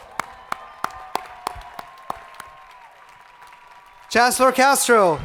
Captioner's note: crowd applauding